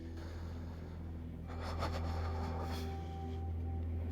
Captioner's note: breathes shakily